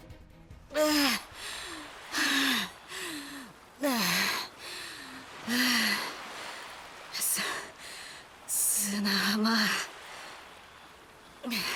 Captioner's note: huff